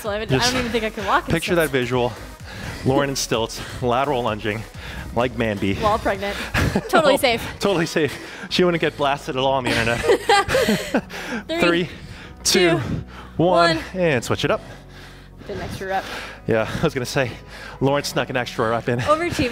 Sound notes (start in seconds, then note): 9.6 both laughing